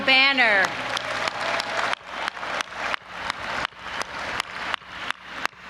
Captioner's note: audience applauding and cheering